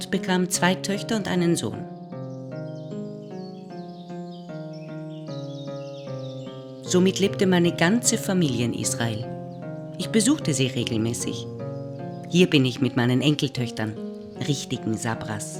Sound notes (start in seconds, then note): 0.2 German speaking continues; 4.2 birds singing; 11.3 contemplative music continues